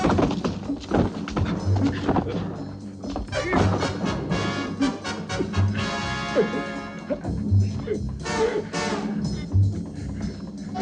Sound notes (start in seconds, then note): 6.3 gagging